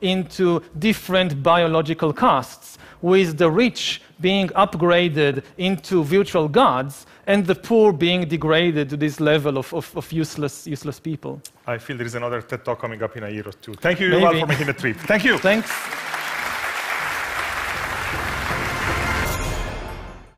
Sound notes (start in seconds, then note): 17.1 powerful music; 17.2 applause